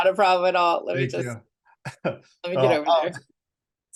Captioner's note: chuckles